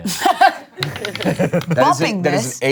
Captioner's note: both laugh